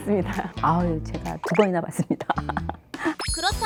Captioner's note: laughter